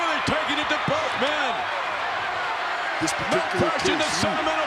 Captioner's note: crowd shout